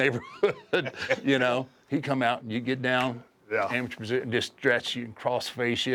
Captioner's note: laugh